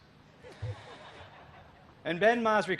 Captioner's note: laughter